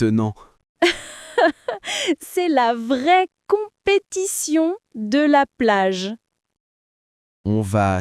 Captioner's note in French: rire